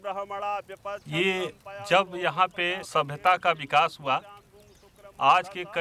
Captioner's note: speaking native language